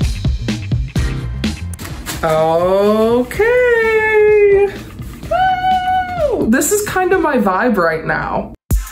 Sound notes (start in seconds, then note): 5.2 exclaims